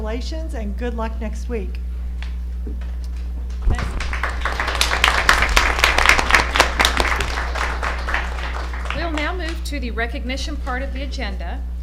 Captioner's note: applause